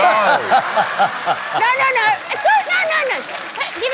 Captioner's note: laughter